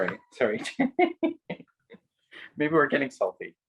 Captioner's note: laughing